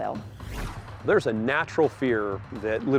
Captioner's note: whoosh